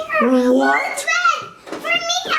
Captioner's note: excited squeals